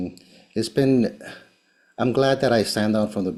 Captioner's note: sighing